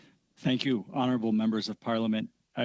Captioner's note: speaking French